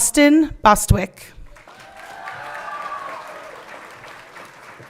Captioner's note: everyone cheering